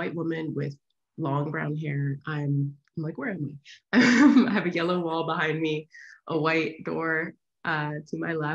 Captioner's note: laughs